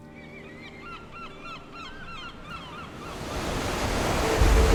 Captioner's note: sea gulls cawing